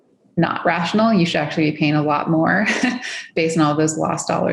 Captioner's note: laughs